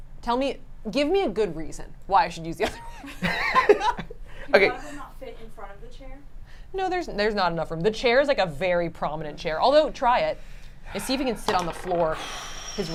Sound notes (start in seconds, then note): 2.7 laugh